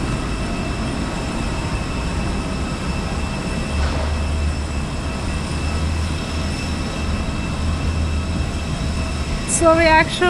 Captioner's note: airplane